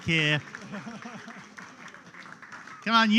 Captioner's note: applause